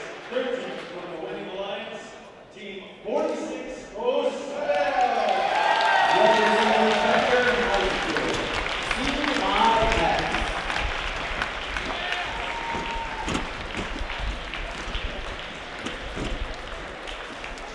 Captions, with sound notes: Third team from the winning alliance Team 4607! From Becker High School CIS *Sounds of Enthusiastic High-Fives* *Crowds Cheer*